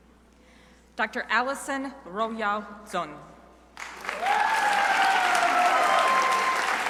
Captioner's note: crowd applauding